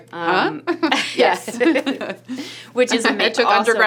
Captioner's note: laughs